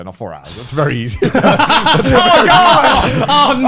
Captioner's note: men laugh